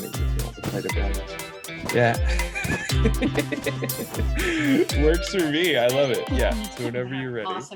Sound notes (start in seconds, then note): 2.2 laughs